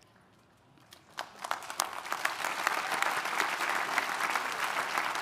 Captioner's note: audience applauding